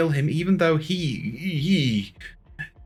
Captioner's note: sounds of discomfort